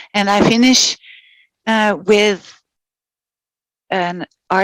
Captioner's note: non-english speech